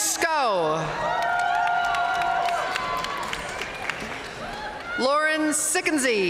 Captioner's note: audience cheering and applauding